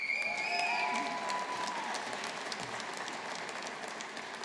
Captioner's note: audience applauding